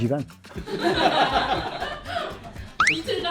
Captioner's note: bursts of laughter